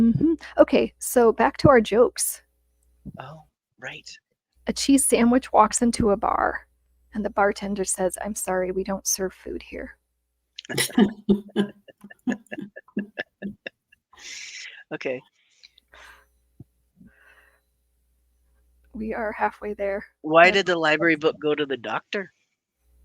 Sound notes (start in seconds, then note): 10.6 participants chuckle